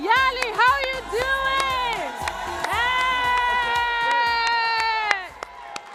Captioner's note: audience cheers and applauds